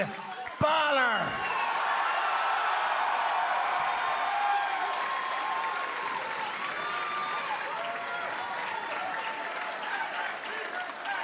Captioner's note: cheers and applause